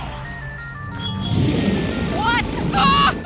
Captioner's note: roar